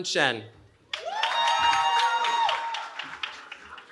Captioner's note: cheering